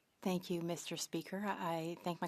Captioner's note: speaking French